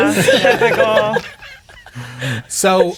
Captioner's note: players laughing